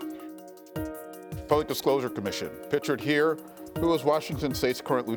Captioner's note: bell sounds